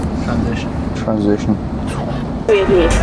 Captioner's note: electronic dance music; transition swoop